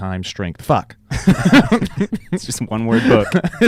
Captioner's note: laughing